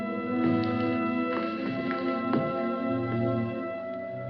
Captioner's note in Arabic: خطوات